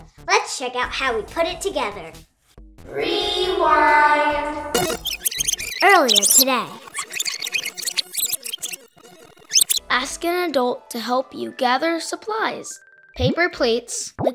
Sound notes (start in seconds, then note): 4.7 squeaks